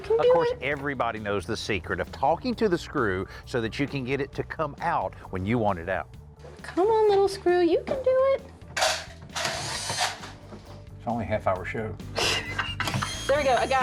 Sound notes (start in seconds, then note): 8.8 drilling; 12.2 laughs